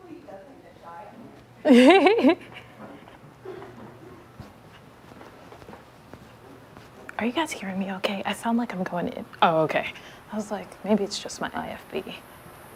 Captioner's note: laughter